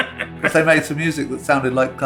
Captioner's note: laughter